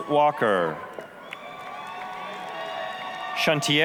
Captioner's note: applause, cheering